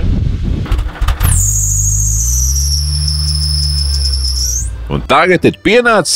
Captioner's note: unstable engine idle speed